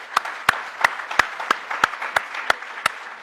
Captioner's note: applause